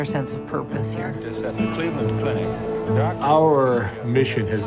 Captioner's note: ambient sound of news anchors